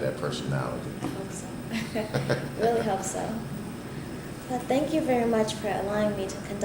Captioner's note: both laugh